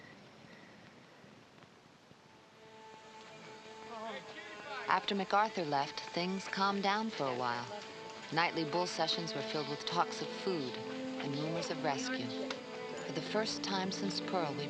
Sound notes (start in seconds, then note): 2.8 soft dramatic music; 5.0 Maggie Voiceover